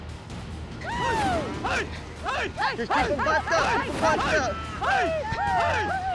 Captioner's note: yelling